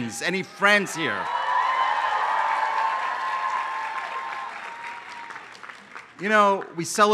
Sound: applause

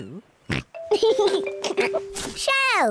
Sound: oinks and giggles

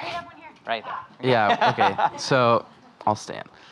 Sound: laughing

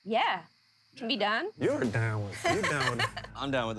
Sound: laughs

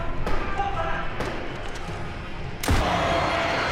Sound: men screaming

